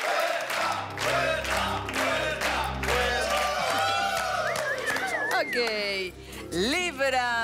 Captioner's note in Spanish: Gritos y exclamaciones